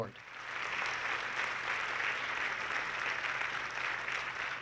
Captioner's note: audience clapping